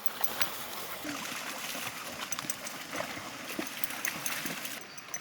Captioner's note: water splashing